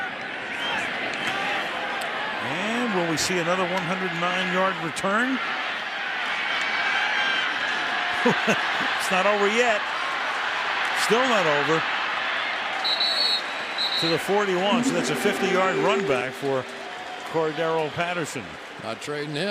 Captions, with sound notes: And will we see another 109-yard return? [chuckles] It's not over yet. Still not over. [whistle blows] To the 41. So that's a 50-yard run back for Cordarrelle Patterson.